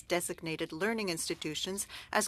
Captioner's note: speaking French